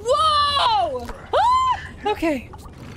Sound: scream

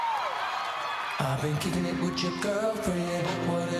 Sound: applause

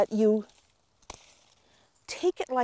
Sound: stem snaps

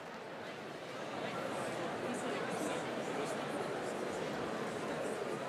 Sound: crowd indistinct mumbling

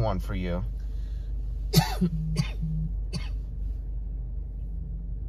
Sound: coughing

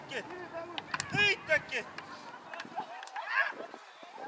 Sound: laughing and cheering

